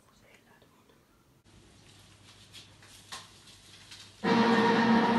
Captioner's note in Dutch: Heel hard vuvuzela geluid